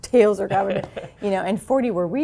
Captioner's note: laugh